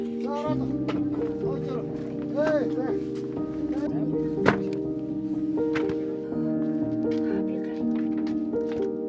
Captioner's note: speaking in foreign language